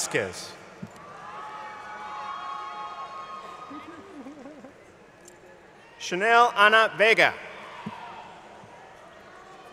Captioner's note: laughter